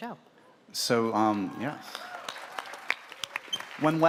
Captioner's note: applause